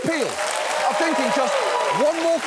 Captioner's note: studio audience cheers, applauds